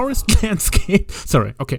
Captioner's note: starts laughing